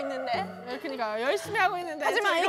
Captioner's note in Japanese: しくしく